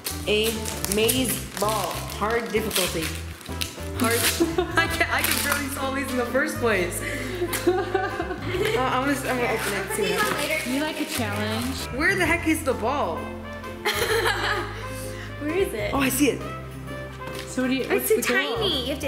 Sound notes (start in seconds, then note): 13.8 laughing